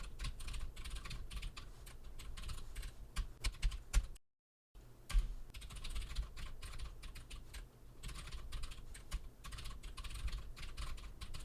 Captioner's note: typing sounds